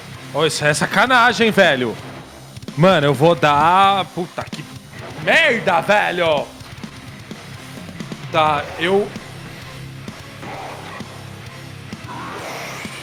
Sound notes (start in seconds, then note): 8.7 sigh